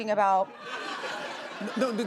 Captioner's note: laughter